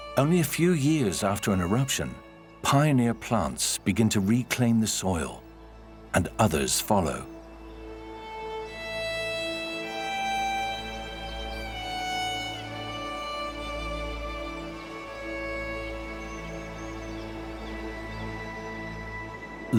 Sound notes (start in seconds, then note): 8.1 birds chirping